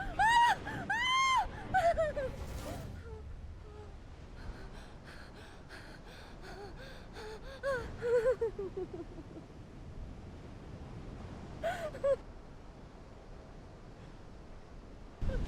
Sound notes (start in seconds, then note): 3.6 Julie breathes heavily; 7.7 Julie whimpers